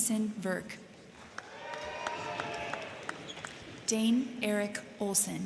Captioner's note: crowd clapping; crowd cheering